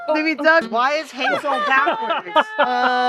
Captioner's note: laughter